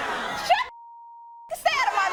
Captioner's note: beep